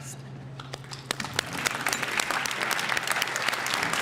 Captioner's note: applause